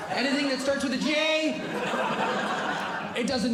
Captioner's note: audience Laughing